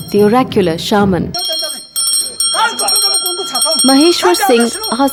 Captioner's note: bell jingling